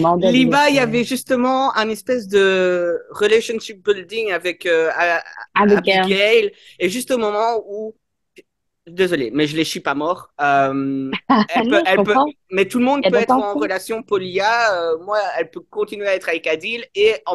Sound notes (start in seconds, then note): 11.6 Arlen laughs